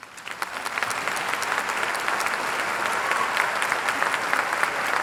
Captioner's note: audience applauding